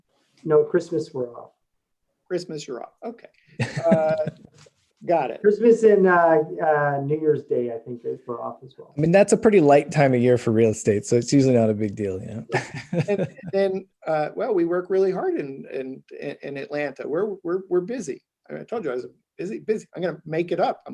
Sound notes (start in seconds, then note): 3.6 laughs; 12.5 laugh